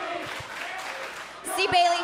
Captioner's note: fans chanting